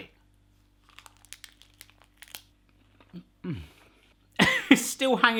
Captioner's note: crunches